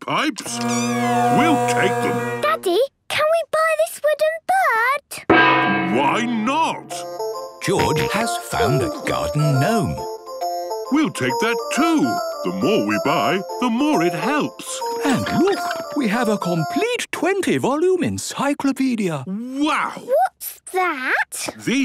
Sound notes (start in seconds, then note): 0.5 dissonant music; 5.3 gong; 10.1 giggling